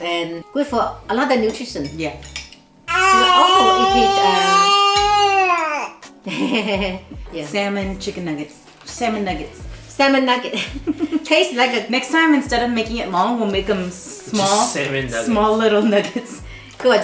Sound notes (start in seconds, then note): 3.0 screams